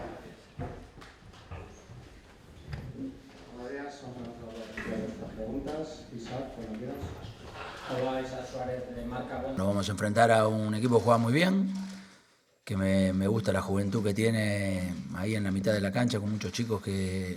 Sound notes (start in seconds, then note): 5.2 Spanish